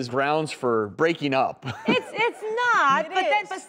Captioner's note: laughs